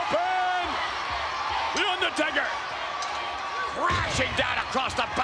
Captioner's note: audience cheering